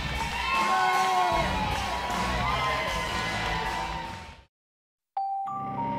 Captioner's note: crowd cheering